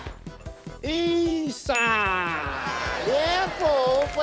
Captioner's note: ding!